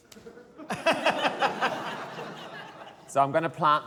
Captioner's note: laughter